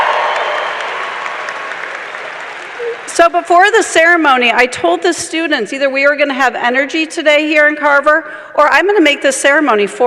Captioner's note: cheers and applause